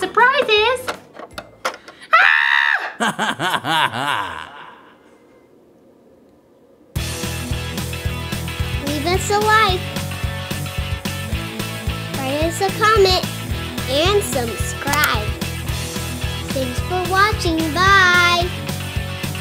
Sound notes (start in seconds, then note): 2.1 creepy laugh